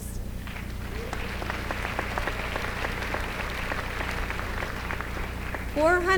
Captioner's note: applause